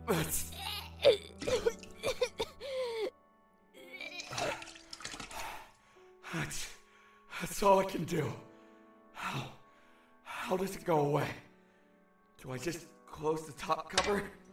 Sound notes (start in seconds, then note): 2.5 heavy breathing; 3.9 vomits